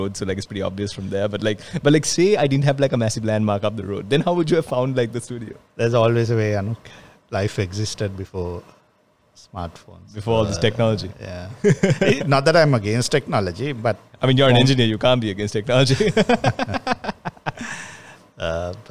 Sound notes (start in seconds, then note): 11.6 laughs; 16.0 laughs